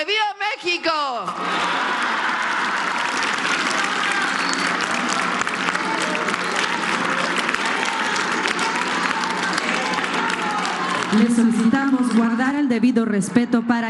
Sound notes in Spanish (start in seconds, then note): 11.2 aplausos